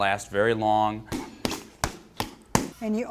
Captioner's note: punching